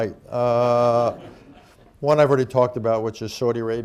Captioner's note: laughter